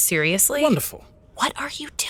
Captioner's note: surprised; whispering